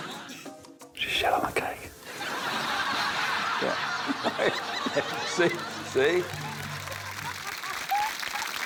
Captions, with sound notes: (WHISPERS) She shat on a cake. (LAUGHTER) Yeah. (LAUGHTER) See? See? (APPLAUSE)